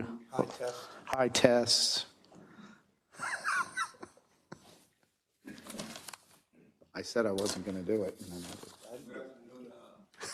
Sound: laugh

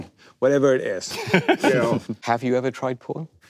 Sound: panel laughing

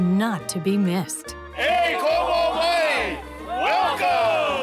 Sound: speaking hawaiian language

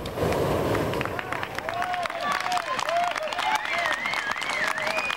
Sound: spectators clapping

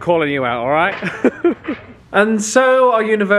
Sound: laughing

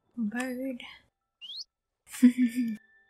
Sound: giggle

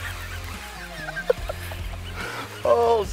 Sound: laughs

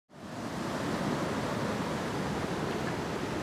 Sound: waves whooshing

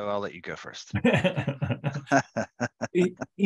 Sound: laughter

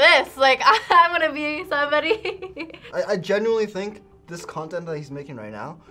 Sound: laughs

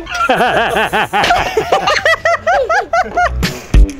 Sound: laughter

